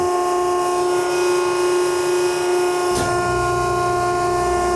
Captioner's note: machine whirring